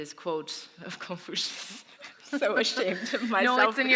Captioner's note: laughter